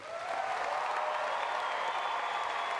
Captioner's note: applause